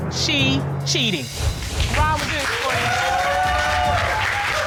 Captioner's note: audience cheering